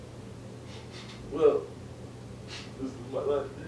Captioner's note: sniff sniff; sniff